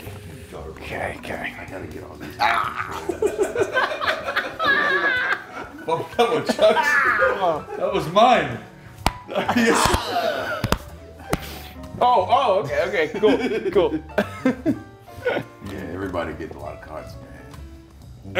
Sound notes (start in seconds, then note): 2.2 laugh